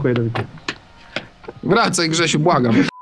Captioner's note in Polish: śmiech